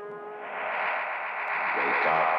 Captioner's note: magnetic humming